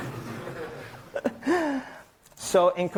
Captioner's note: laughter; chuckles